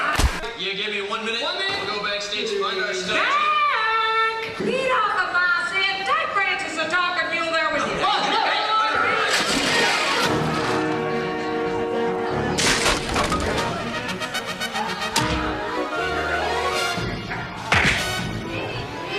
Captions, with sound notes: - You gimme one minute to go backstage and find our stuff- - Jack! He knows what I said. Take Francis talking there with you. (dramatic western music) (wood crashing)